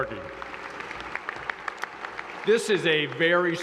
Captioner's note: applause